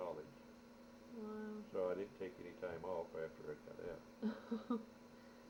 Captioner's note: laughs